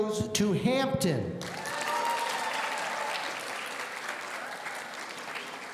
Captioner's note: audience cheering